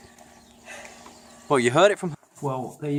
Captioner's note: breathing